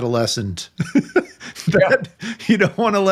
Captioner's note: laughing